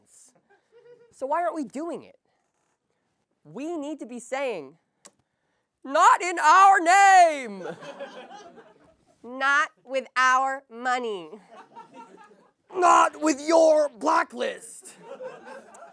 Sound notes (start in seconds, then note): 5.7 Jerry Seinfeld voice; 9.0 Sarah Silverman voice; 12.5 Seth Rogen voice